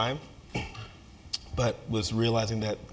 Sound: cough

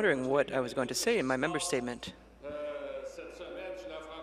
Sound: speaking French

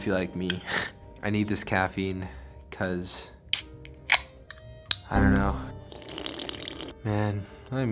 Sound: slurp

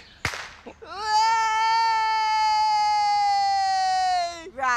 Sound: cheering

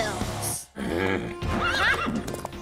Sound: horse neighs

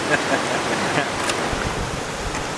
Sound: laughing

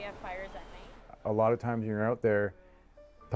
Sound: voiceover

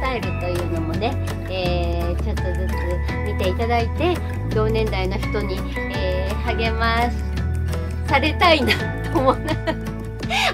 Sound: laughs

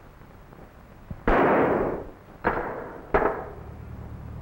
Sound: gunshot

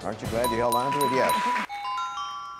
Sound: chiming music; puzzle dings

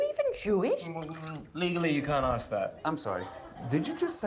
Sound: water burbles

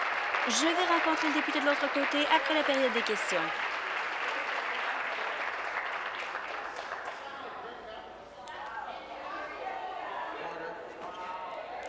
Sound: applause

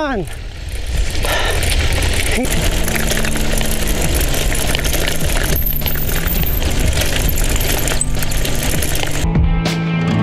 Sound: cycling Running Sound

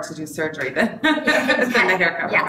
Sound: laughs

